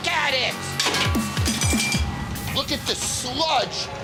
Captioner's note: spatula clatters